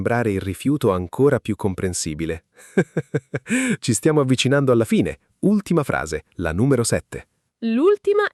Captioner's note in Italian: risate